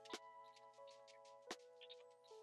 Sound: none

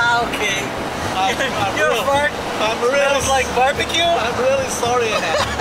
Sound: laughing

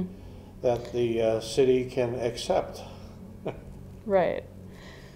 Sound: laughing

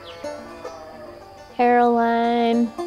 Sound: cow mooing

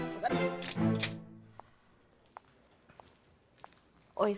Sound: footsteps

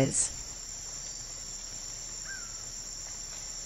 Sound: forest sounds

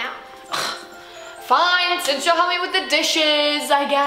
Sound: scoffs

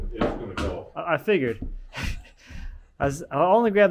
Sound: laughing

